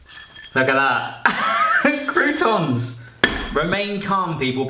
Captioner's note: laughs